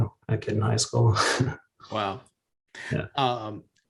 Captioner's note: chuckles